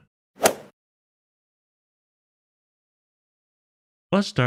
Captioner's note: golf ball hit sound effect